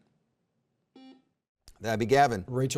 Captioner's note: buzzer beeps